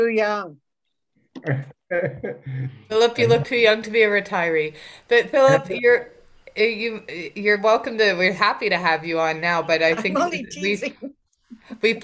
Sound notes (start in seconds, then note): 1.4 laughs